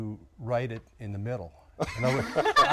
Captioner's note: laughter